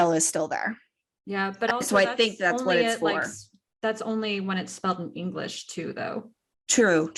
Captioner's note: stuttering